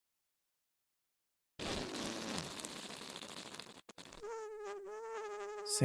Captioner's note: whoopie cushion fart noise